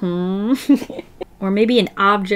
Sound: laughs

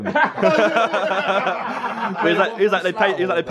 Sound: laughing

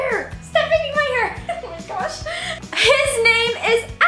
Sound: laughs

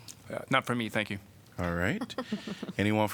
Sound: laughter

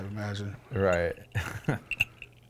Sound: laughing

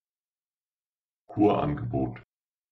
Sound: fast Pronunciation

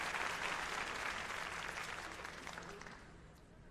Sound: applause

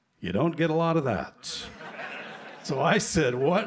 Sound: laughter

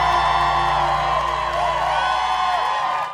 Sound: applause

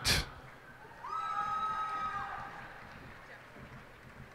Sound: cheers and applause

